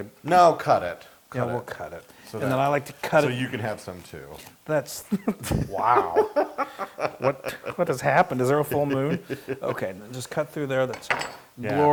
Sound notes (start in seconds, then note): 5.1 laugh